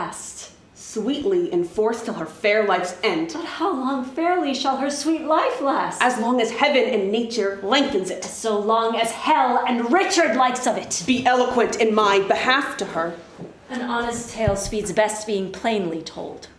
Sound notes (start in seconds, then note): none